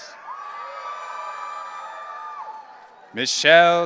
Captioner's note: audience cheering